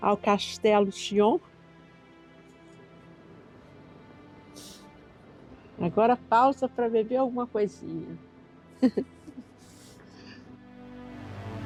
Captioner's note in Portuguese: risos